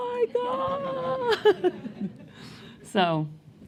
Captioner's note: laughter